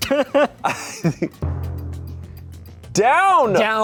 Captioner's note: everyone laughs